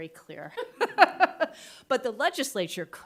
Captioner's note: group laughs